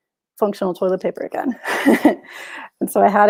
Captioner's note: chuckles